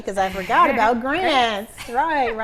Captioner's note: giggles